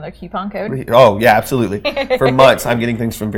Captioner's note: laughing